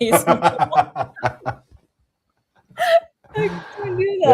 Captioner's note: laughter